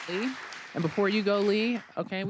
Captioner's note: applause